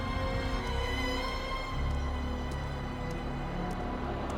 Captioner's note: footsteps tapping